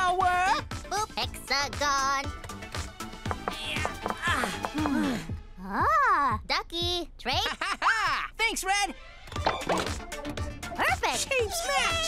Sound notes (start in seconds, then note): 4.2 grunting